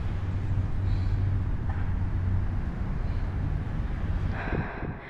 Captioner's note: sighs